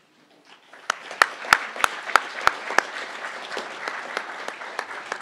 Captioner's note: crowd applauding